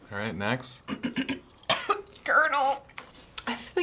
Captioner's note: coughs